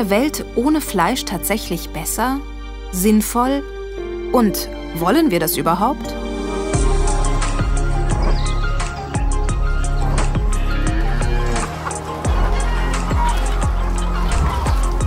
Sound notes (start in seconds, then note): 9.9 moo; 12.3 cluck